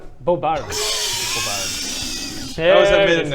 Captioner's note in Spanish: risa sibilante